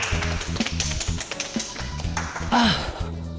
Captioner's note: round of applause